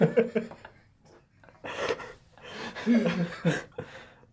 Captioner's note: all laugh